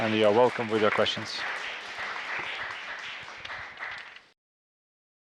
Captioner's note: applause